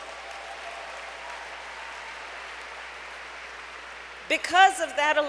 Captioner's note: applause